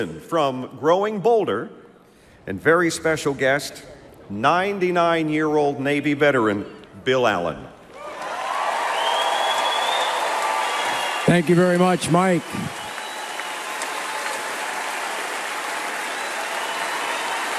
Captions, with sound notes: from Growing Bolder, and very special guest, 99-year-old Navy veteran, Bill Allen. (crowd cheers and applauds) - Thank you very much, Mike. (crowd cheering and applause continues)